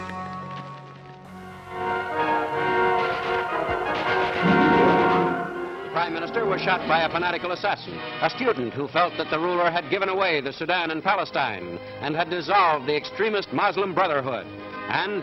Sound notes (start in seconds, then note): 4.6 radio report in English